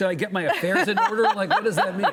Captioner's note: laughing